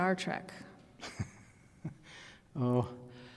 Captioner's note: laughs